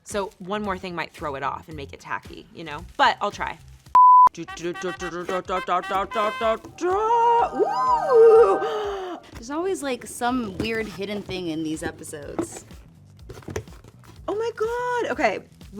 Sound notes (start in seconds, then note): 3.9 beep; 8.2 gasps